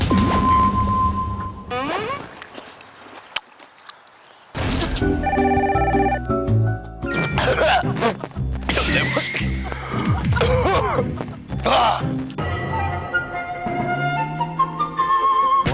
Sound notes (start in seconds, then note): 2.2 chewing